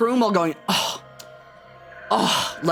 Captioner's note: clicks tongue